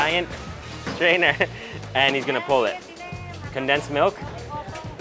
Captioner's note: chuckling